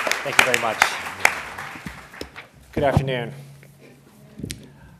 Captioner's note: applause